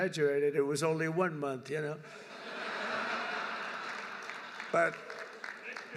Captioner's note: laughter